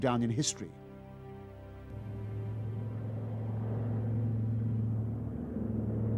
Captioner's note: humming, rumbling